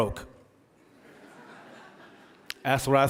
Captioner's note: audience laughing